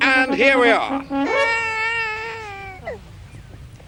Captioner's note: baby crying